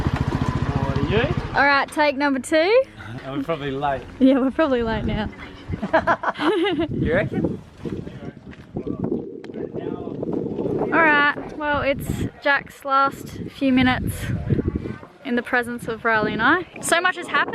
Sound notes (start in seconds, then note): 5.6 laughter